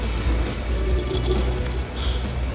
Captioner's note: slurps loudly